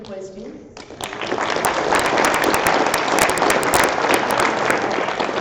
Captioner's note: applause